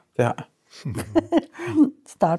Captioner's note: chuckles